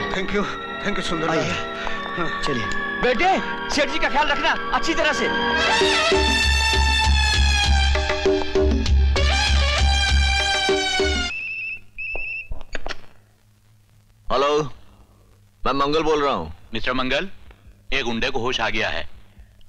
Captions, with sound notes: Thank you. Thank you Sunderlal. - Come sir. Son, take care of him. (Phone ringing) Hello. Mangal here. Mr. Mangal, one goon has regained consciousness.